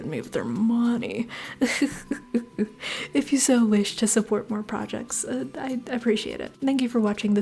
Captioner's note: laughter